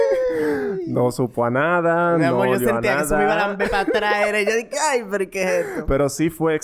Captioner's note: laughs